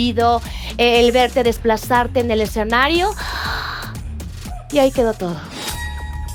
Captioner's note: gasp